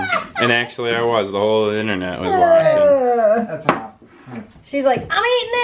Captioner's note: laughter; laughter